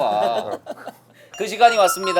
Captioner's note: laughing